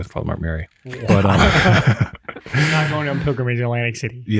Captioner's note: group laughs